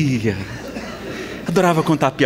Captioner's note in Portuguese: Risadas